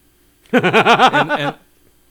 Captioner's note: laughs